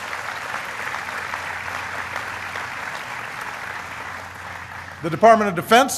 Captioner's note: applause